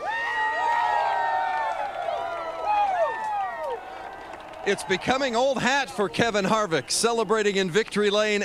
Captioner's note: cheers and applause